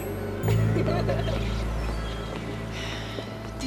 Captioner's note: girls laughing